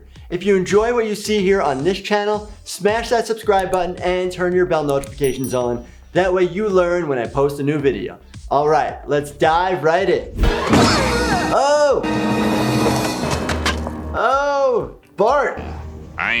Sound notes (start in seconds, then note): 10.4 intense music; 10.5 Bart yells out